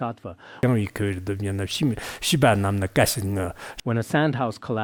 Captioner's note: citing scripture in Tibetan